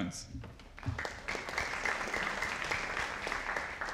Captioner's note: audience applauding